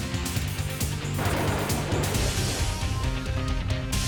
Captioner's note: thunder rumbles